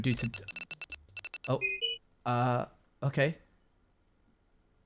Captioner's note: morse code beeping